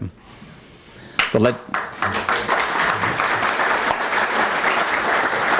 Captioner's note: applause